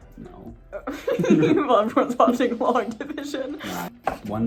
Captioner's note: laughs